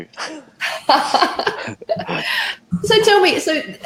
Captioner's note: both laughing